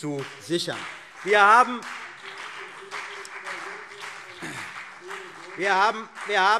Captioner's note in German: Beifall CDU und BÜNDNIS 90/DIE GRÜNEN